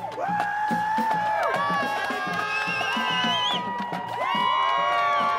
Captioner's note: loud cheering